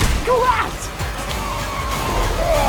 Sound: yells; tires screech

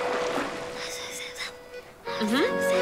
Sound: whispering

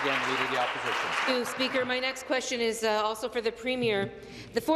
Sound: applause

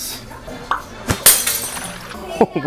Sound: cork pops

